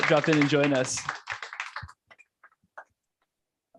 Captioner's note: applause